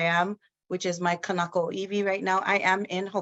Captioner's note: speaks in foreign language